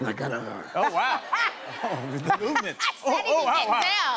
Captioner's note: laughter